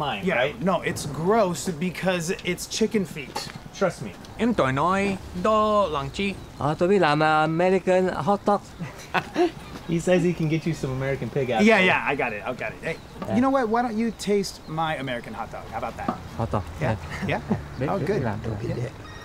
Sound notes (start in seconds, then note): 4.5 speaks in foreign language; 8.6 laughs; 19.0 phone rings